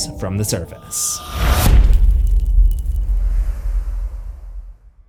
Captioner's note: impact